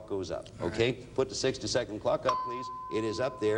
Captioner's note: ding sounds